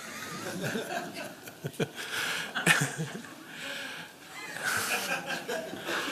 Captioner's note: laughter